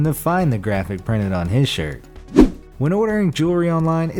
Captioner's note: air whooshes